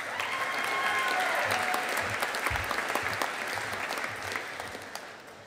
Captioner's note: audience applauding